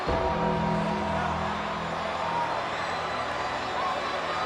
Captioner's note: bell tolls